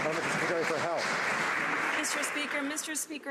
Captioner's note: some Applause